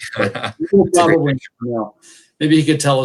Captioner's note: laughs